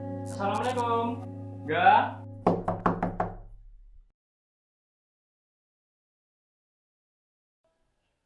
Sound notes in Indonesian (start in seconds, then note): 2.4 suara mengetuk pintu